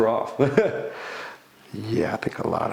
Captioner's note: laughs